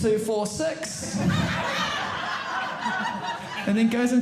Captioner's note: audience laughing